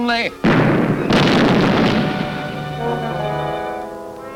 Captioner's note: explosion booming